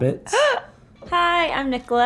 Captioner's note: gasps